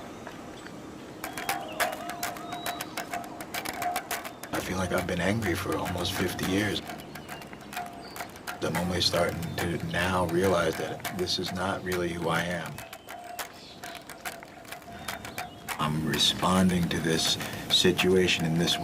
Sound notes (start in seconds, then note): 3.9 voz en off